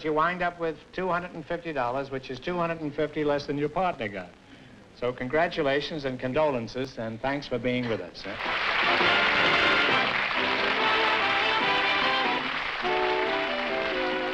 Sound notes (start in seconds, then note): 8.2 applause; 8.3 upbeat music